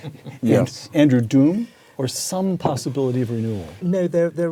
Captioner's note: laugh